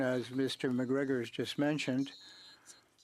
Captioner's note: speaking French